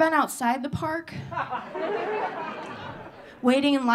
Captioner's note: audience laughing